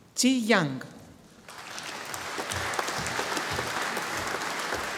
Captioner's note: audience applauding